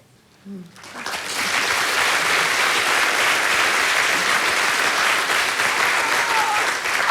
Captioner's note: applause